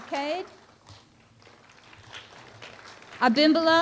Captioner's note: applause